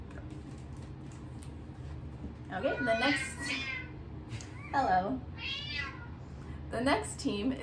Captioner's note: cat continues meowing; cat meows